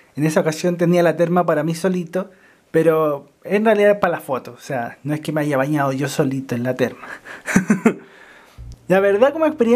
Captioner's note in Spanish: risas